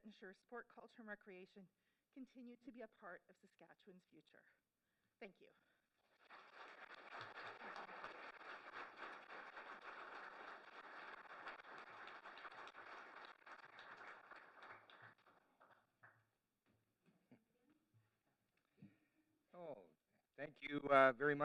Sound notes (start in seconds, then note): 6.0 applause